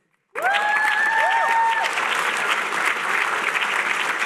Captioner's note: applause